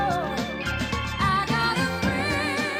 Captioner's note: bell dings